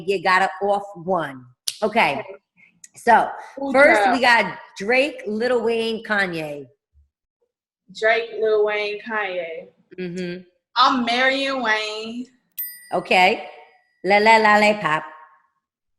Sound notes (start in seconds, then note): 12.5 ding